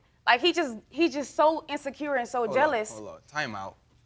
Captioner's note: none